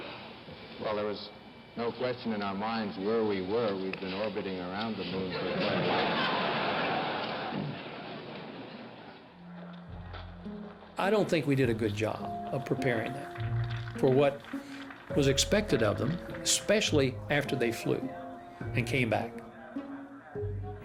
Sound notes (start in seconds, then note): 5.3 laughter